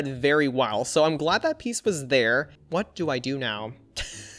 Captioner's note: chuckles